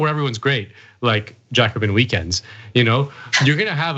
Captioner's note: laugh